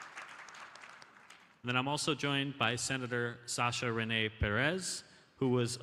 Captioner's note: applause